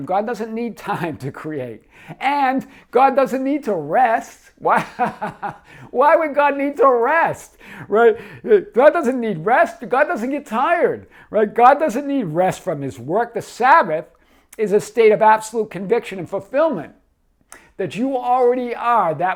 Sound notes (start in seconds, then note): 4.6 laughing